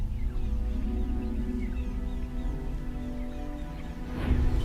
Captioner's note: animals calling